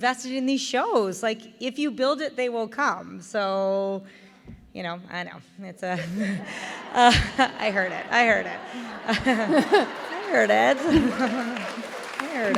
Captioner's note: laughter/applause due to double entendre